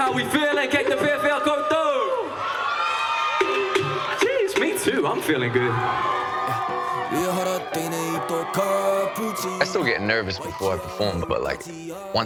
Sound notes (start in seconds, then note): 2.4 cheering; 6.5 cheering